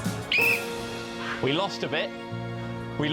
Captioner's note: whistle blows